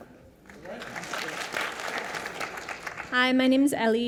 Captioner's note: audience applause